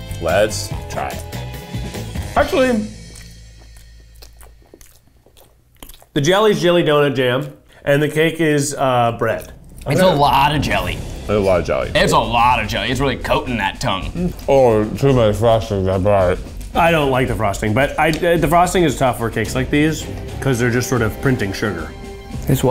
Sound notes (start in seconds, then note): 2.9 all smacking